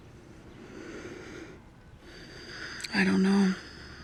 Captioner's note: sighs